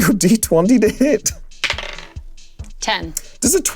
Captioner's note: die rolling